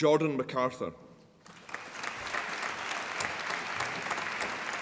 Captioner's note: applause